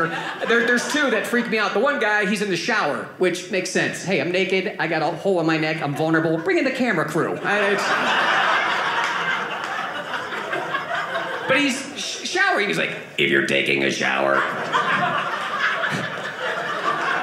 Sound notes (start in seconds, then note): 7.3 audience laughing; 12.6 robotic voice; 14.0 audience laughing